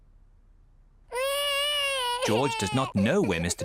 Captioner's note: george wailing